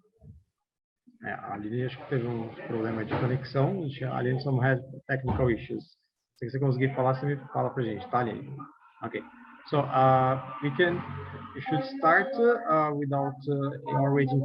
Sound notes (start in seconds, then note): 1.8 non-english speech